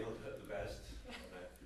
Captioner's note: background laughter